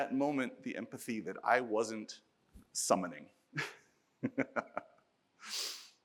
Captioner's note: laughs